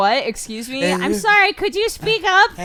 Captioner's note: whispering slighty louder